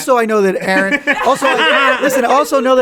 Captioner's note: all laugh